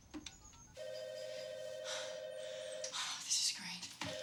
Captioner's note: telephone ringing